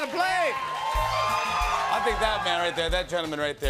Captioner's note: cheers and applause